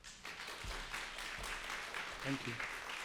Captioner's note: applause